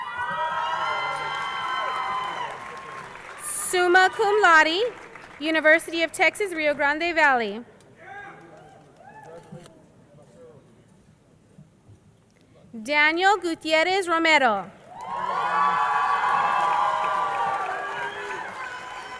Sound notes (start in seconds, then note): 0.0 crowd cheering; 14.8 crowd cheering